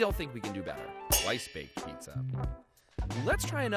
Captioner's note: metal clangs